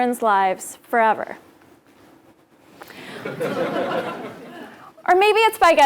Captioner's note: laugh